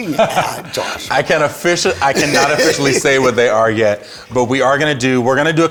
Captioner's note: laughs